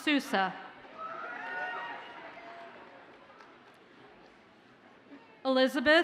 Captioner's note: audience cheers and applauds faintly